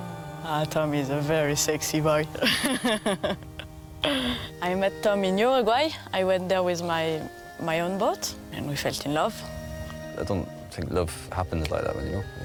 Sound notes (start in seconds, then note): 2.4 laughing